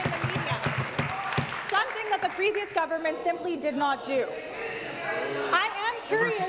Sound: applause

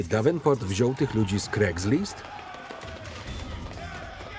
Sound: yelling

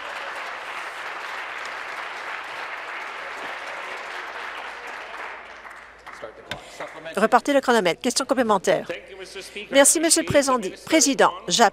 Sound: applause

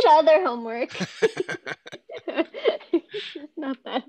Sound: laughter

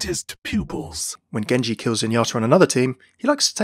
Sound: voiceover

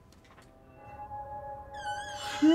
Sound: creepy music; door hinge creaks

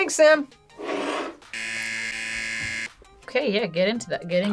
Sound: buzzer

